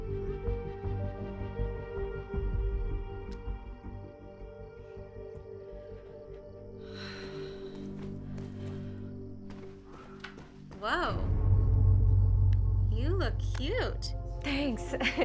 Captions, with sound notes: (sighs) - Whoa. You look cute. - Thanks. (laughs)